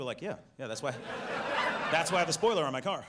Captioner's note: audience laughs